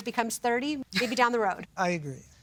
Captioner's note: laughing